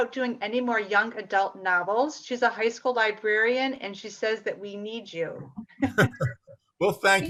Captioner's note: laughs